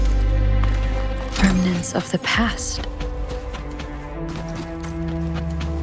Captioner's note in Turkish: Çatışma sesleri